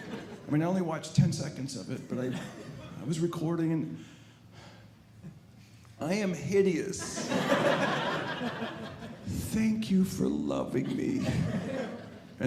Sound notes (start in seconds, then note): 7.0 audience laughing